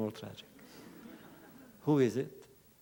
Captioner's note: laughter